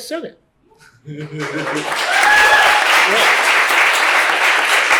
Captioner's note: applause and cheering